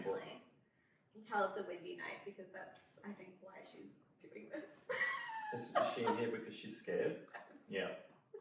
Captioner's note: laughs